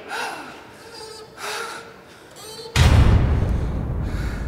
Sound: heavy panting

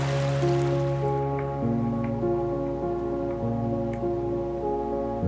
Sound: wooden footsteps climbing

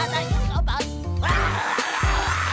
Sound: screaming

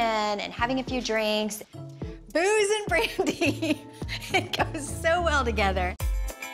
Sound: laughs

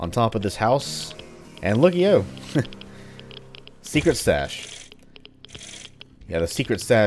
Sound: riff plays; chuckles

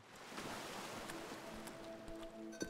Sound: waves lapping

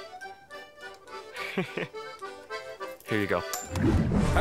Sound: chuckles

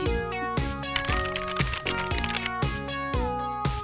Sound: keyboard sounds

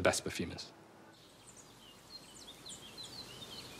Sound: birds chirping

